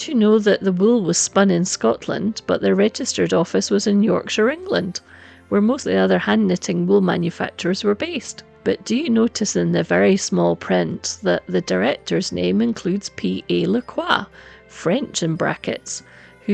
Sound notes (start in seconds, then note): 14.5 french